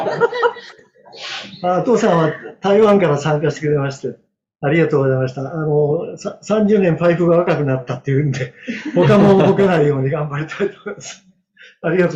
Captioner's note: laughs